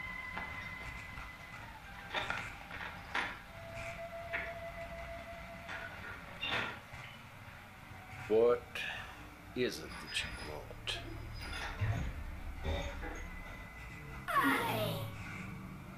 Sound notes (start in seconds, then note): 3.5 metal clanking